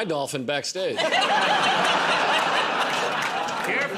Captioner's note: laughter